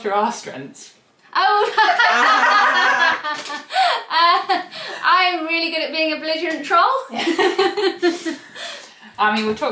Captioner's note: laughs